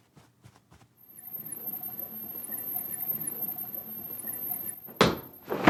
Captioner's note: wheel squeaking